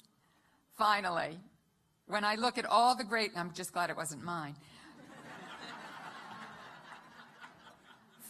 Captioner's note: laughter